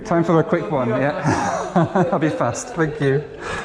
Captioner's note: chuckles